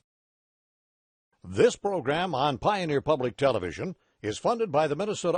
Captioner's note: voiceover